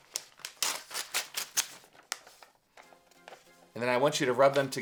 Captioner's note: paper tearing